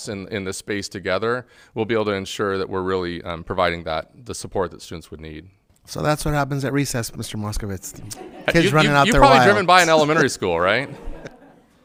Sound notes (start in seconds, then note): 8.0 all laughing